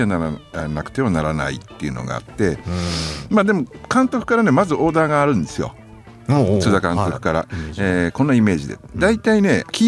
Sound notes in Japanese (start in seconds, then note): 2.6 鼻息